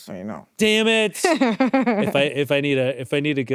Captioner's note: laughs